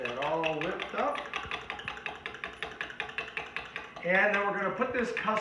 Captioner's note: whisk hitting against container